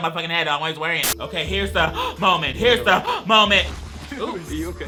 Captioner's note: gasps